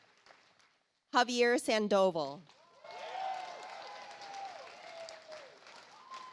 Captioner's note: audience applauds